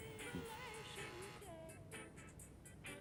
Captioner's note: doorbell buzzes